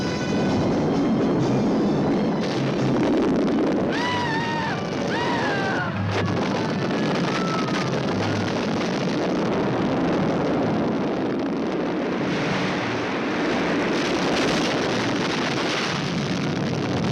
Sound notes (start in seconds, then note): 3.0 explosion booming; 3.9 both screaming; 6.9 explosion booming